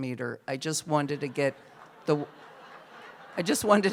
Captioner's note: laughter